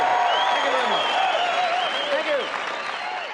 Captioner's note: cheering and applauding